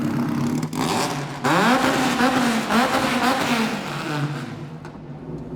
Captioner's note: engine revving